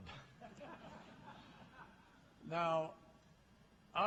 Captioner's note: laughter